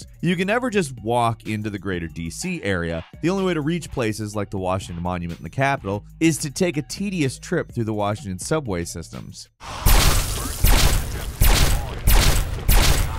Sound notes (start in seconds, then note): 9.7 lasers blasting